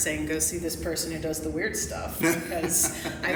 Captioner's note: laughs